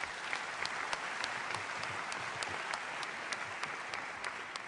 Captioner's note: applause